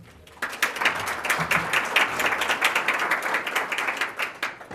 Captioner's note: audience applauding